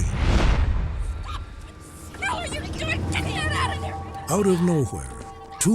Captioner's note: screaming